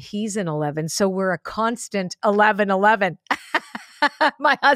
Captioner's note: laughs